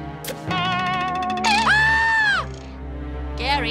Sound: shrieking

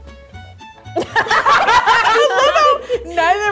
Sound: all laughing

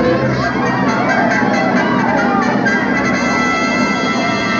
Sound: Munchkins cheering

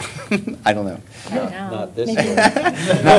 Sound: laughter

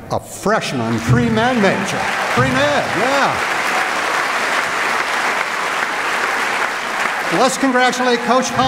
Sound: applause

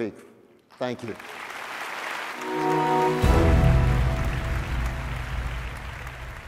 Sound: audience applauding

